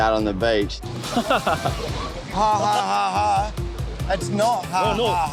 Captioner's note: suspect laughs